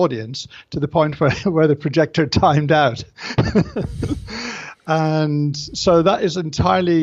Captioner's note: laughs